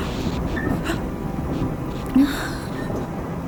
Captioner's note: mother Sighs